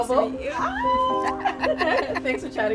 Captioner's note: both laughing